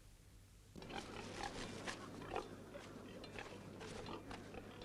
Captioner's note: pigs grunting